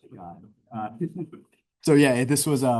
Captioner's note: chuckling